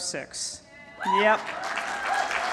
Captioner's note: cheers and applause